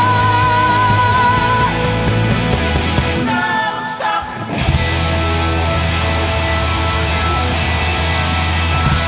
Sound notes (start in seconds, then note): 6.4 crowd cheering